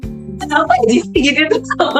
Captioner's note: laugh